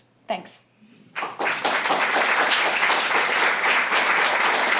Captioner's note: applause